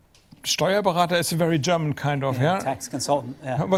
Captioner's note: german